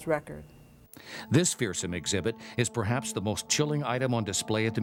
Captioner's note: voiceover